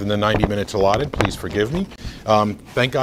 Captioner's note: rustles papers